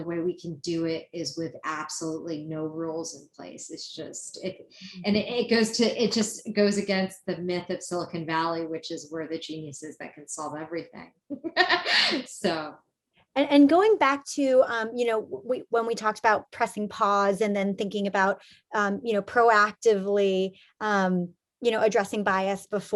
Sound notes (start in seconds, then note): 11.4 laughs